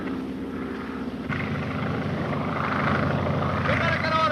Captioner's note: airplane buzzing